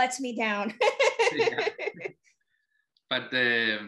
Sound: laughing

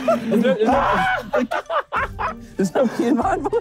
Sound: group laughing

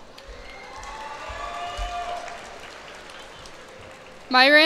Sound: cheers and applause

